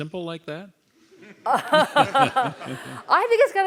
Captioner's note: laugh